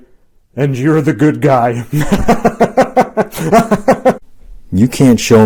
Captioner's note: laughs